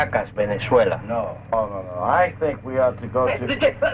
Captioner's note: Colonel Cabeza speaking in Spanish